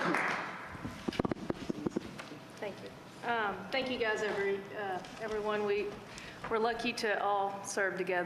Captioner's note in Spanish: applause